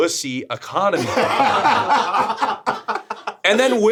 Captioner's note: group laughing